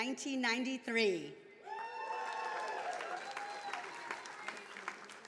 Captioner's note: attendees applauding